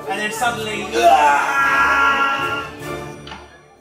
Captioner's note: screams